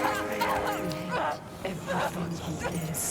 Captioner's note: screaming